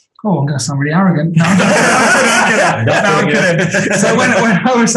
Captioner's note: group laughing